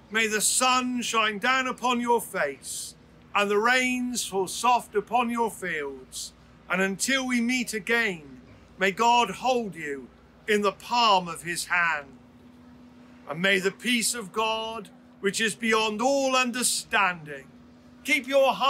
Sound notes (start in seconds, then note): none